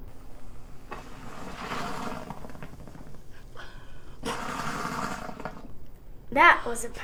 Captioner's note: volcano sputtering